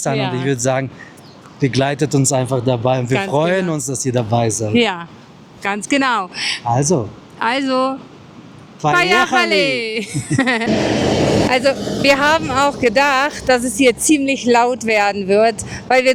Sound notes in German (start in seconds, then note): 9.9 gelächter